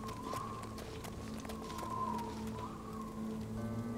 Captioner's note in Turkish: Rüzgâr sesi